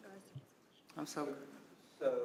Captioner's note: speaking quietly